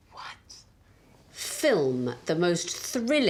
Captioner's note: whispers